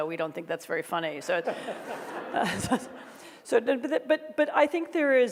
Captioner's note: audience laughs